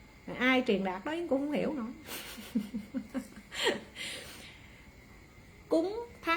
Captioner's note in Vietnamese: tiếng cười